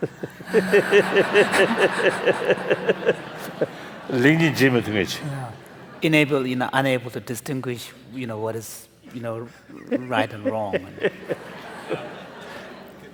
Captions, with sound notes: [ Laughter ] [ Foreign Language ] >> Enable-- Unable to distinguish, you know, what is, you know, right and wrong. [ Laughter ]